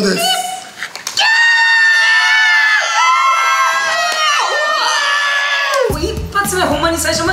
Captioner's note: singing the wrong lyrics; screams